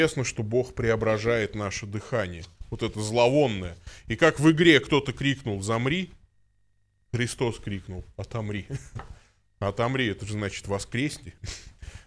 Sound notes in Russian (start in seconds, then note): 8.7 смех